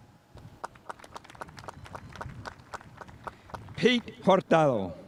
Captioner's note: spectators applauding